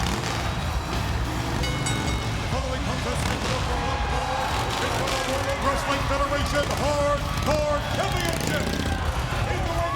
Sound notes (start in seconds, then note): 1.5 bell ringing